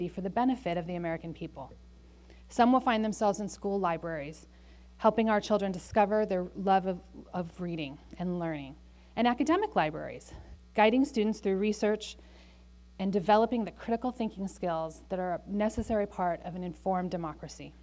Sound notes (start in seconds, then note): none